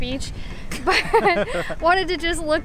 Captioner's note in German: Gelächter